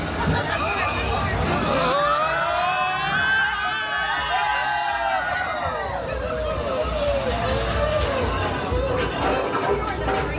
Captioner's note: guests screaming